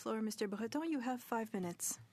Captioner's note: speaking in French